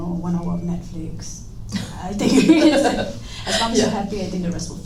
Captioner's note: laugh